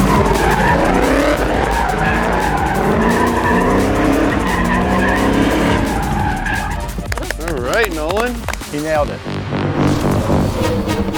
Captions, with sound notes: (tires screeching) (car engine revving) (tires screeching) (hands clapping) - All right, Nolan. - He nailed it.